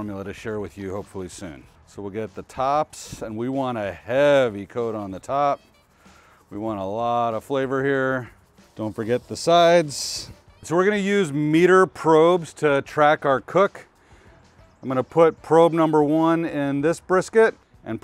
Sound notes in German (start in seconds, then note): none